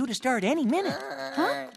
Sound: moan

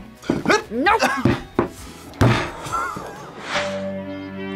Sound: both laugh

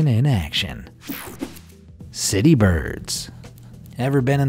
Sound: electricity buzzing

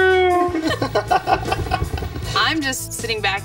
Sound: laughing

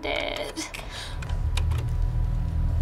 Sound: gasps

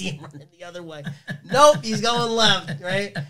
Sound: laughs

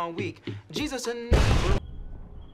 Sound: explosion

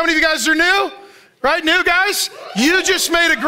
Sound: audience cheers

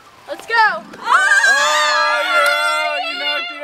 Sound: everyone yelling

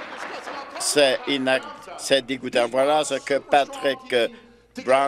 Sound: applause

